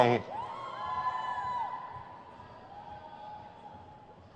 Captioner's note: crowd cheers